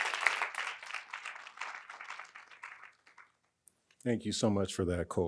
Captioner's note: audience continue applauding